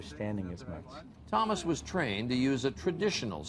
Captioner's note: voiceover